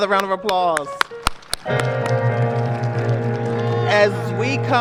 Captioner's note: applause